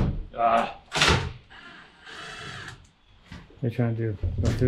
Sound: drill whirring

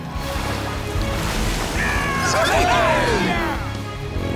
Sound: cheering

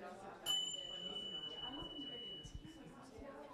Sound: bells

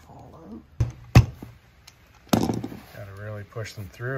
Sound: screwdriver thudding

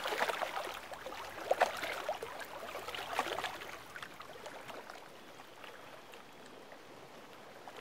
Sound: water softly rippling

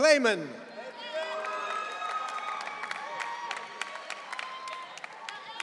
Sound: audience cheering

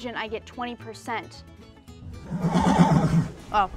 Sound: horse whinnies

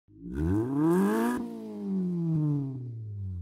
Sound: engine revs

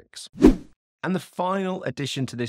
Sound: swooping transition

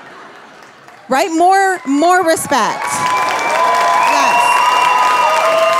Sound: audience cheering

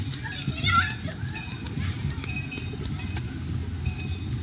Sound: children shouting

